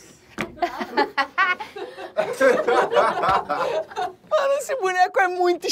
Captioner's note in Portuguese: risadas